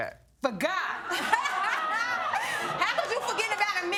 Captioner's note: all laughing